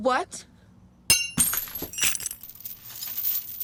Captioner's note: chains clattering